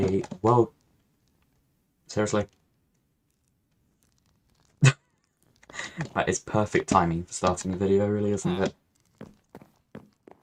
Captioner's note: laughs